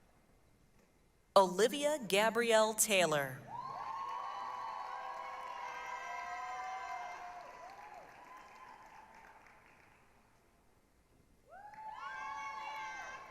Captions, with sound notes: Olivia Gabrielle Taylor. [APPLAUSE, CHEERING]